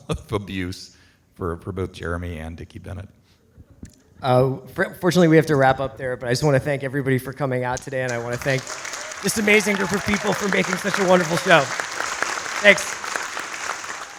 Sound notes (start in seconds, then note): 11.9 audience applauds